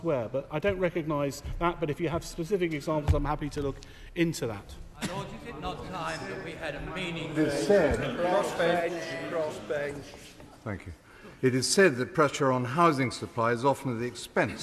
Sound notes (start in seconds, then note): 5.0 chatter